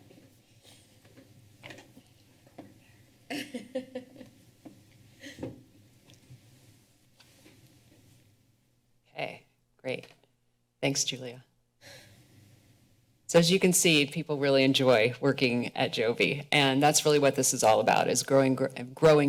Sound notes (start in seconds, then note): 3.3 laughter